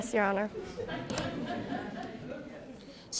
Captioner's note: audience laughing